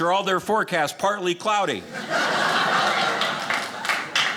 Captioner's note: audience laughing